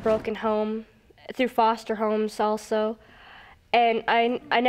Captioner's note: none